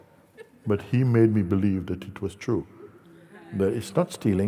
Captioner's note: Lachen